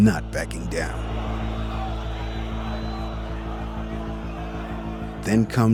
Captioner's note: crowd cheers